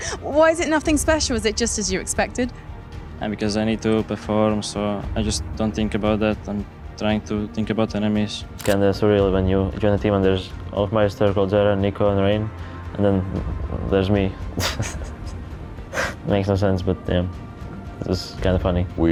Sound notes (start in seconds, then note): 14.6 laughs